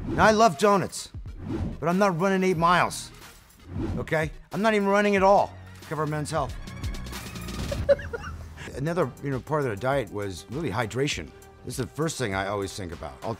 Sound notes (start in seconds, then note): 6.9 upbeat music; 7.6 laughs